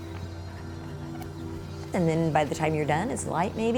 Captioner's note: jogger running